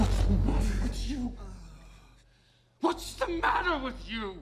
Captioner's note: Frank groans